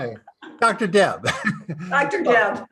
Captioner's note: chuckling